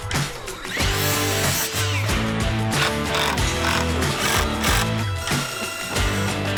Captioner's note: upbeat music; drilling